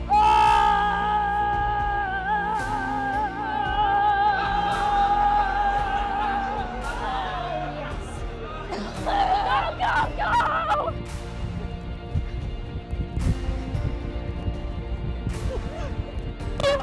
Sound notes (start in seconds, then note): 9.4 yelling